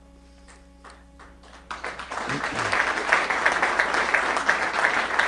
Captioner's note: applause